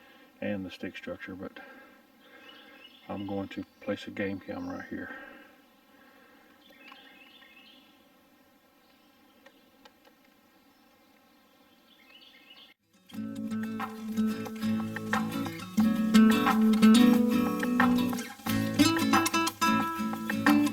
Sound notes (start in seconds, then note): 7.0 birds chirping; 13.2 upbeat music